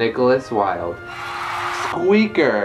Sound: applause

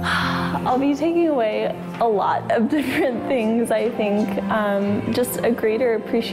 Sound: sighs

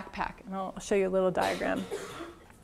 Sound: cough

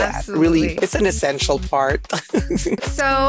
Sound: laughs

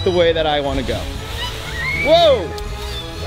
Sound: kids screaming

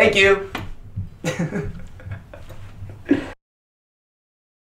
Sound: chuckles

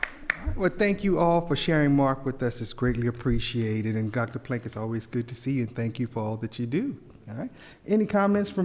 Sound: applause

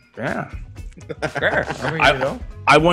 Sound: laugh

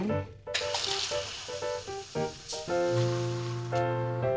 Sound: soda whooshing; light music continues

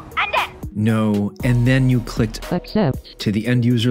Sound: digital voice

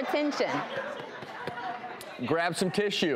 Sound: audience laughs

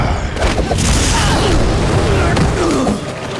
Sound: grunting

